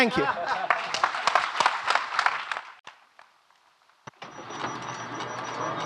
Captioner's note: audience laughing and clapping